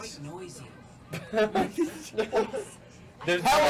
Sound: laughs

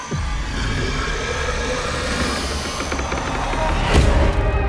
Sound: alligator growling

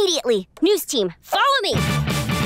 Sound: none

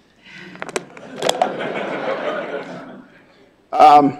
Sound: audience laughing

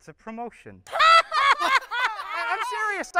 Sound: laughter

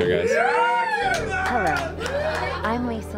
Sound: all cheer

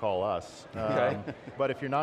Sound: chuckling

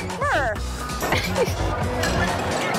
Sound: laughs

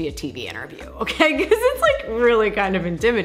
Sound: laughing

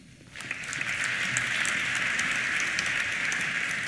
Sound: applause

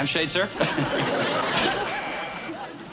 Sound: chuckles; doorbell buzzes

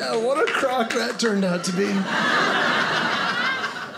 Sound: audience laughing

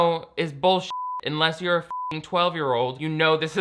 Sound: beep

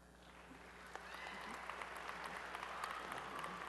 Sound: applause

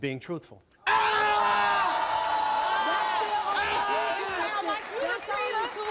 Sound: screams; cheers

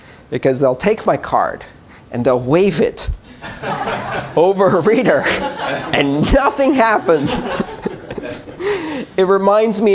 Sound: laughter

